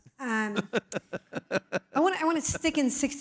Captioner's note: laugh